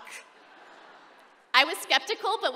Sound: laughter

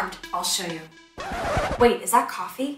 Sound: record scratch

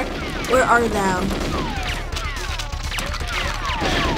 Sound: gunfire continues

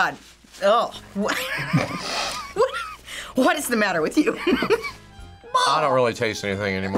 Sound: laughs

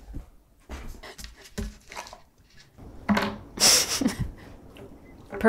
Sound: panting, sniffing; laughing

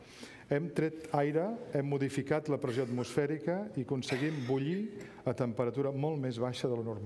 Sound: speaking catalan

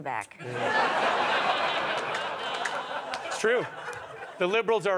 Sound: audience laughter

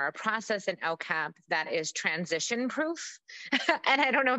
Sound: laughs

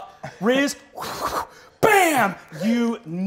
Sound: blows

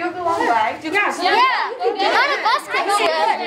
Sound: shouts of support

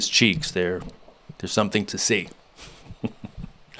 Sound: laughs

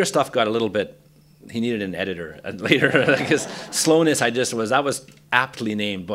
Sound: laughter

